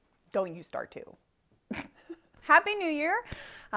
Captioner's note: laughs